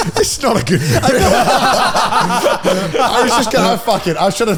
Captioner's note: all laughing; laughing